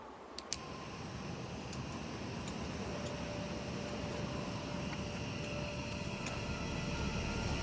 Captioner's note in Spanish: Sonido del soplete